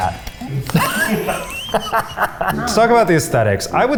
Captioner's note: all laughing